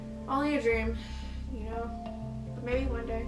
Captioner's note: sighs